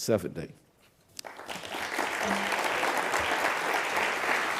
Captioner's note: audience applause